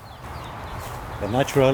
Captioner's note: birds chirping